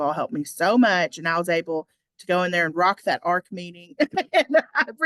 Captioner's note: laughs